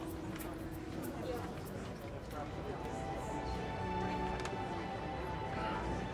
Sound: people murmuring

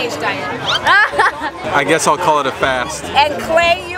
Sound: laughing

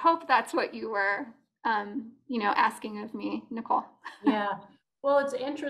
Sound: laughter

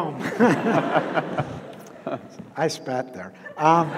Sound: audience laughs

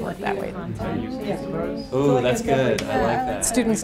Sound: overlapping student voices

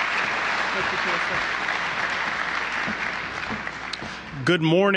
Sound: applause

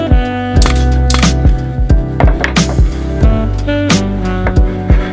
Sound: nail gun hissing sharply

